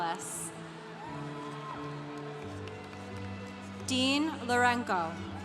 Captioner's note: congregation cheering